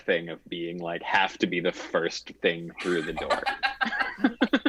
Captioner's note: chuckles